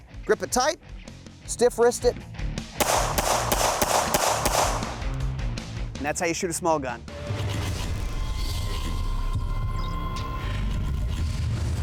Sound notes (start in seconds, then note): 2.8 gunshots firing